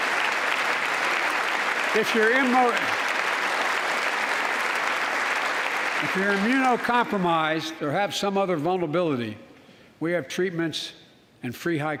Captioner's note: applause